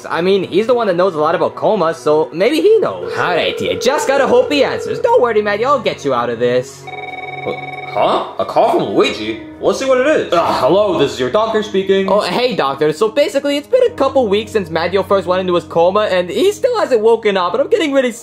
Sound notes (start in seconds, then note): 2.9 phone ringing; 6.8 phone ringing